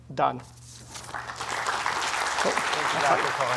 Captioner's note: applause